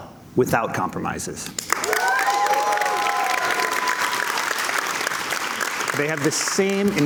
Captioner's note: cheers and Applause